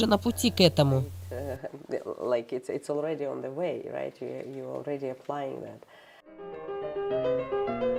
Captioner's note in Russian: Разговаривают на английском